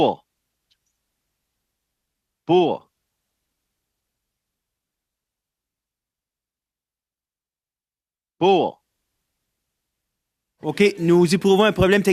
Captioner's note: speaking in French